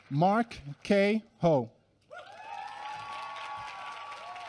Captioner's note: applause